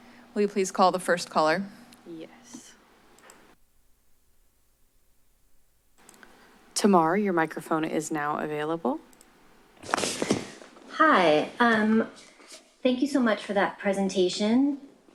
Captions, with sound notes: - Will you please call the first caller? - Yes. [silence] Tamar, your microphone is now available. [microphone tapping] - Hi. Um, thank you so much for that presentation.